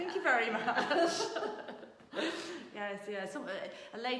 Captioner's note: laughing